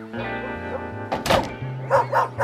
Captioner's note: barking